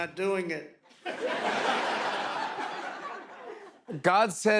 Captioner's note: laughter